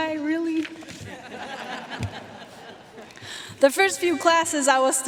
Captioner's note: audience laughing